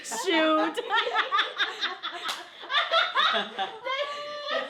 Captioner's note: all laughing